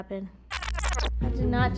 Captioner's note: audio reversing